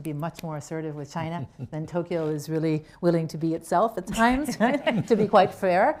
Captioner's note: laughter